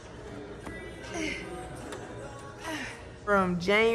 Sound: grunting

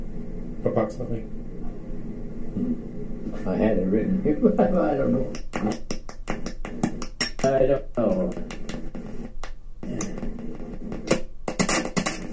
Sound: chuckles

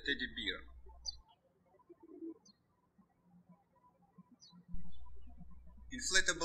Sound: birds chirping

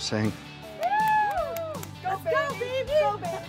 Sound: group cheers

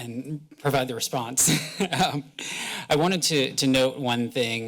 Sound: laughs

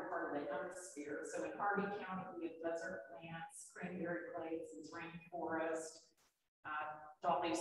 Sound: speaks faintly

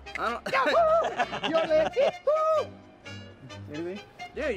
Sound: laughter

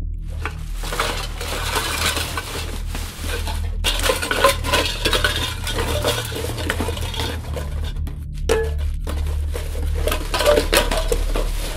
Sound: rummaging through trash

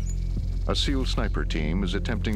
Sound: voiceover

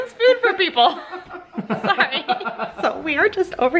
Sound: laughing

